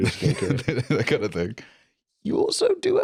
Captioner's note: laughs